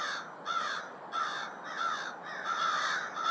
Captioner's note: crows call